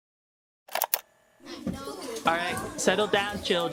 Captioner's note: cassette starts; children talking